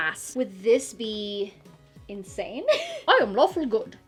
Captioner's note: chuckles